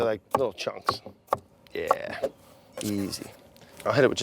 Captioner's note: chopping